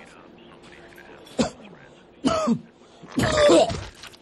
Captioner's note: man coughs